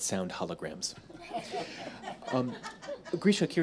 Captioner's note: audience laughs